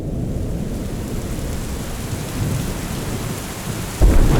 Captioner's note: rain pattering